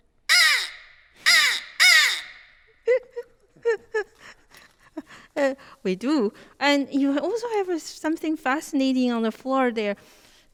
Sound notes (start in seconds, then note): 0.3 instrument quacks; 2.8 laughs